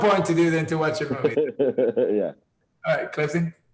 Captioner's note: Tenoch laughing